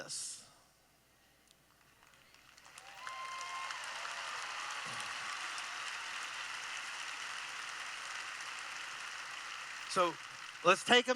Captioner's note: applause